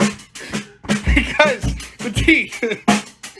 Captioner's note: laughs